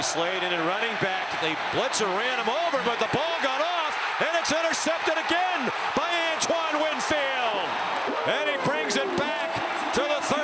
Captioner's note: cheering